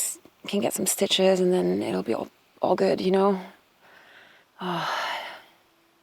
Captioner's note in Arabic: تتنهد